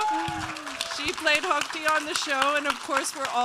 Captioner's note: audience cheering